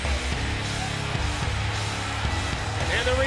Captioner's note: crowd cheering